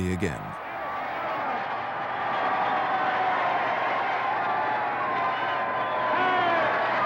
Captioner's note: crowd cheering